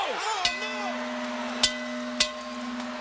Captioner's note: bell ringing